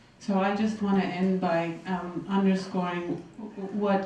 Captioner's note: voiceover